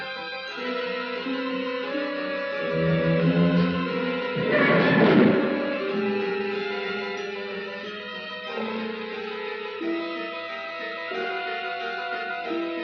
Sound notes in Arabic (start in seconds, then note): 4.4 صراخ الباب; 4.4 صرير الفئران